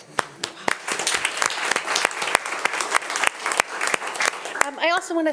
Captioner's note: attendees applauding